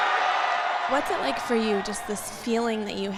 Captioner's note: cheering